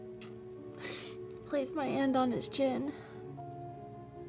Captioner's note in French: renifle